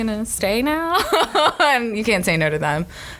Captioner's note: laughs